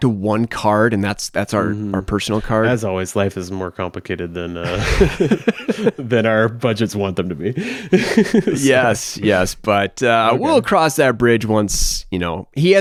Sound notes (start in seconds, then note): 4.6 both laugh; 8.0 chuckles